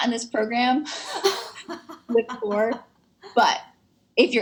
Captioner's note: laughs